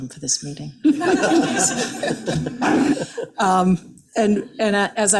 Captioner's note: attendees laughing